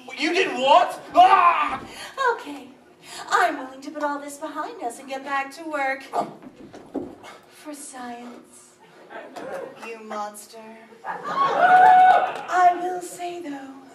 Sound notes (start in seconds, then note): 1.0 choking sounds